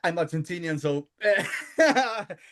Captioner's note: laughing